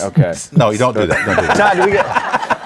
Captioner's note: laughing